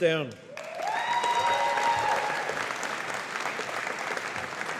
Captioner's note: audience applauding